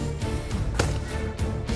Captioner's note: gun shot